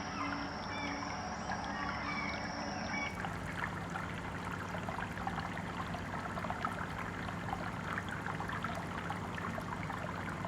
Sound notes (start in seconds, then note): 4.8 bubbling